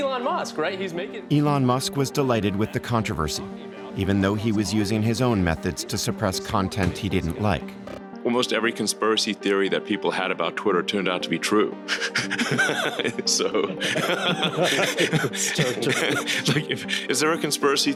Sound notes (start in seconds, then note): 11.9 laughing; 11.9 all laughing